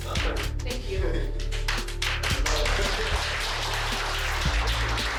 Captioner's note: applause